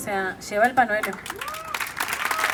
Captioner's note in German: Applaus und Lacher